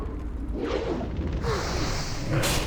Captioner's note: grunts